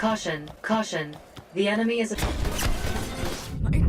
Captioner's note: laser gun fire